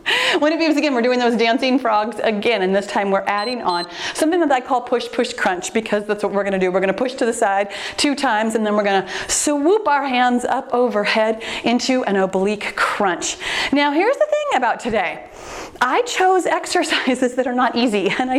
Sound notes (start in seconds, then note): 3.3 timer beeps